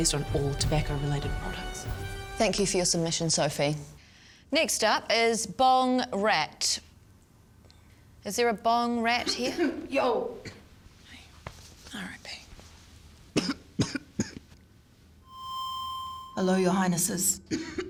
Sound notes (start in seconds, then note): 9.2 coughing; 13.3 coughing; 15.2 microphone feedback; 17.4 coughing